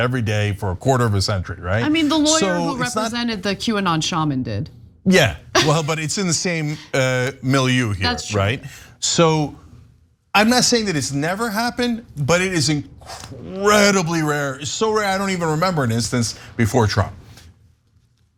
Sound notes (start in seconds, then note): 5.5 laugh